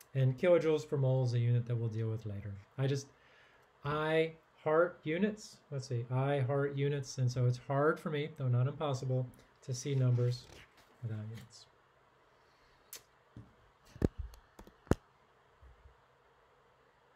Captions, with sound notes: And kilojoules per mol is a unit that we'll deal with later, I just, I heart units, let's see, I heart units and so it's hard for me, though not impossible, to see numbers without units. (tongue clicks) (soft thumps)